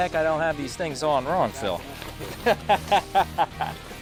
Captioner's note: laughs